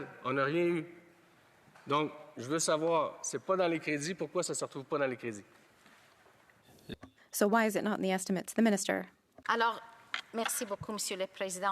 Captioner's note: speaking French